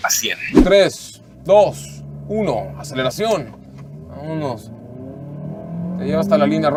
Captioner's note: engine revving